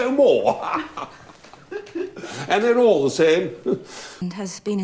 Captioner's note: laughs